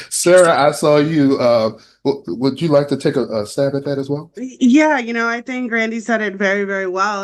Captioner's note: laughter